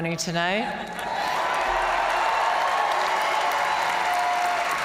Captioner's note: audience cheering